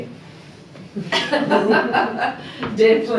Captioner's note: laughing